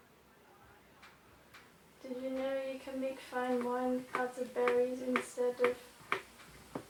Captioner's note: chopping ingredients